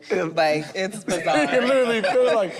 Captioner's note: group laughs